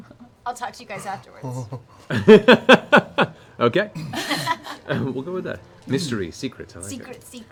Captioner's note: laughs